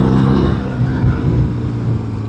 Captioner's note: engine